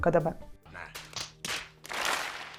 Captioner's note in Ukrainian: звуки колективного фейспалму